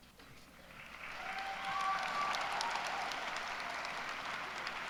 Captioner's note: applause